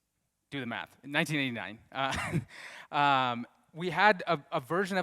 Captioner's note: laughs